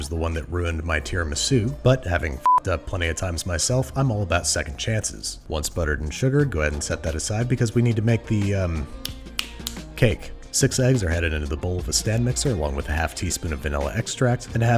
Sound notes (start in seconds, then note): 2.4 beep; 9.0 fingers snapping